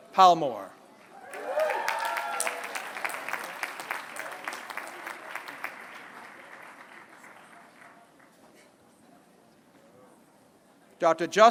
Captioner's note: applause